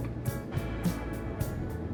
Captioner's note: airplane sound